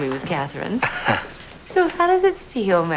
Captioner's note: chuckles